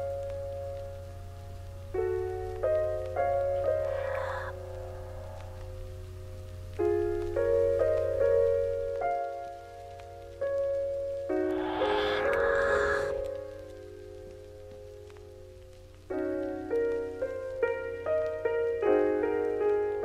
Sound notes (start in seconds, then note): 0.1 soft mellow music; 5.9 whispered voice